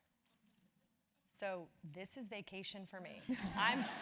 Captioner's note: laugh